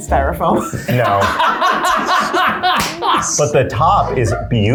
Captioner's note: laugh